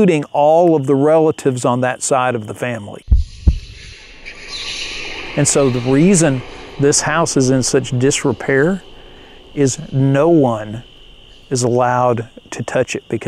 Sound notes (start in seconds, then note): 3.3 spooky sounds echoing